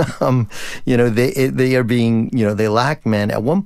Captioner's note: laughter